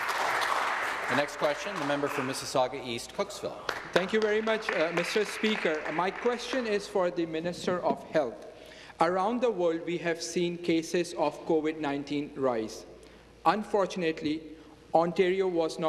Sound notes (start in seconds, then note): 3.6 some Applause